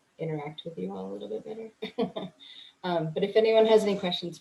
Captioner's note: chuckles